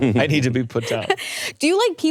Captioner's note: laughing